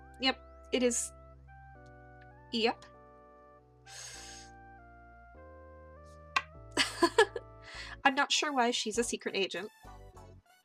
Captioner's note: inhales